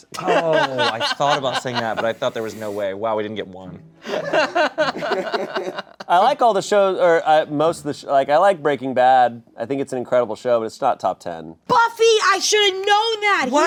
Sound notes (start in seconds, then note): 4.0 laughs